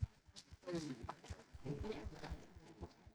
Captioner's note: audience Chuckles